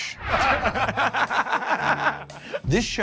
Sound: laughter

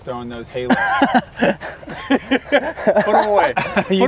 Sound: laughter

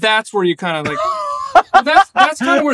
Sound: laughs

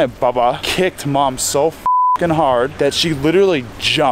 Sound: beep

